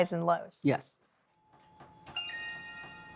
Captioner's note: phone chimes